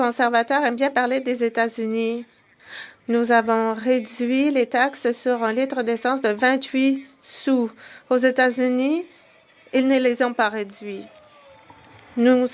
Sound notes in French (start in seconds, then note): 4.9 voix de l'interprète